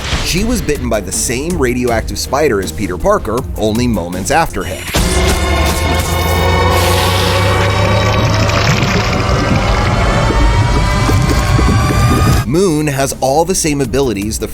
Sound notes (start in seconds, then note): 5.1 dramatic music; 9.7 blood pumping